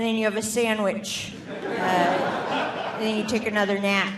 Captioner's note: audience laughing